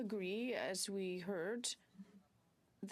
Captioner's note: speaking in french